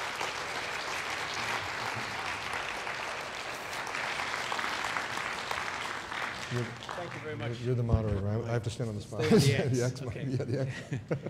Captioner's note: applause